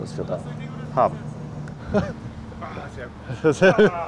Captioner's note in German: lacht